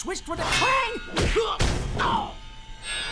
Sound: grunting

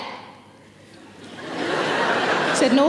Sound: audience laughing

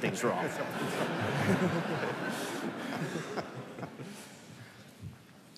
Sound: laughter

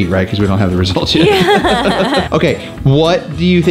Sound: laughs

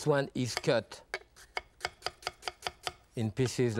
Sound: knife cutting

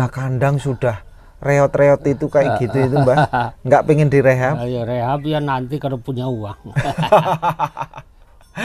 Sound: laughs

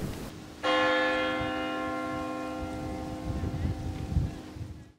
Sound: church bell ringing

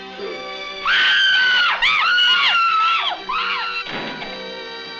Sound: screaming; door thudding

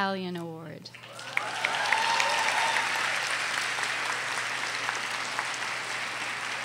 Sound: audience cheers and applauds

